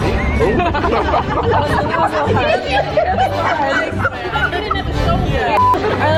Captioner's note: indistinct chattering and laughing